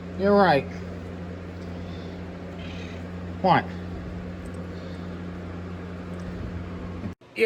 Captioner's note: Caprice meowing